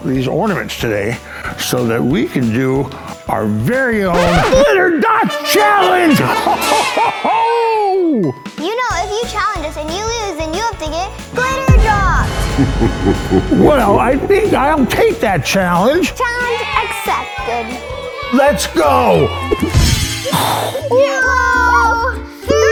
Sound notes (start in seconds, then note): 4.1 record scratching; 7.3 cheering; 12.3 evil laughter; 16.2 cheering; 20.0 air whooshing